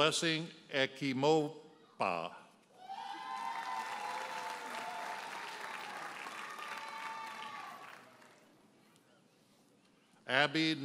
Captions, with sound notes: Blessing Ikhimokpa. (audience cheers and applauds)